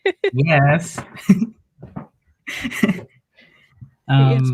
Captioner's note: laughs